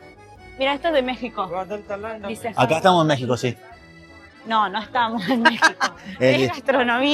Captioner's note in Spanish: risas